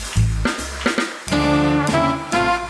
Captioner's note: applause